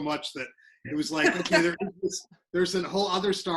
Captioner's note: laughs